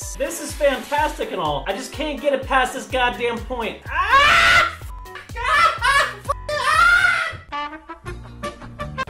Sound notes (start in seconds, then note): 3.9 intense screams of pain